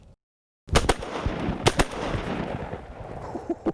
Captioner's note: guns bang